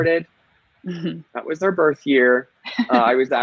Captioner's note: laughing